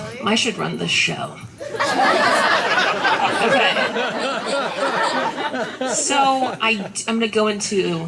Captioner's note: laughter